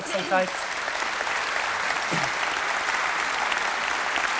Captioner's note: applause from the audience